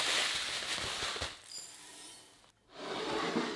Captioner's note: crumbles falling